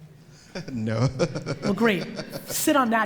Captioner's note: laughs